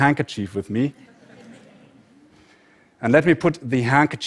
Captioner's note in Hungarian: Nevetés